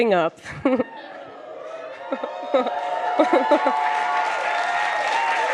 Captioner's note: crowd cheers; crowd cheers and applauds